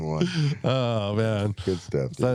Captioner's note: all laughing